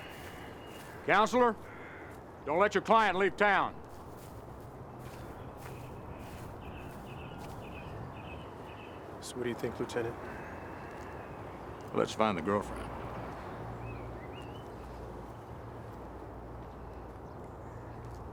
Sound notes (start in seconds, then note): 6.5 birds chirping; 6.5 footsteps pattering; 14.2 birds chirping